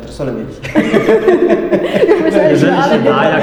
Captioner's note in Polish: śmiech